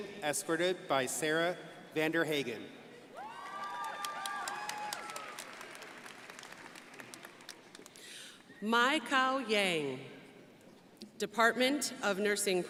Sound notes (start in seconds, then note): 3.1 crowd applauding